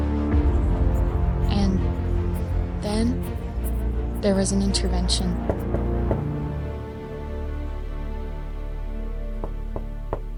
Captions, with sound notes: (dramatic music) And then there was an intervention. (knocking) (knocking)